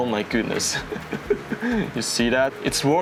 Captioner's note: nervous laugh again